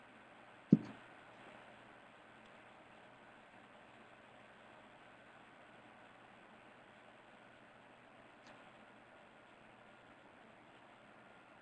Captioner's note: break in audio